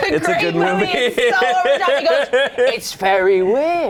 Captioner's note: laughs